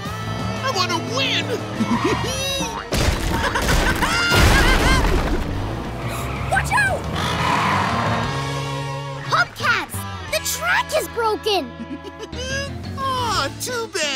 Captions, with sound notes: I want to win! [laughing] Watch out! Hubcaps, the track is broken! Aww, too bad,